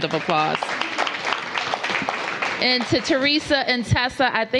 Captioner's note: applause